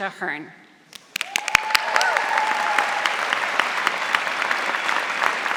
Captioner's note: audience applauding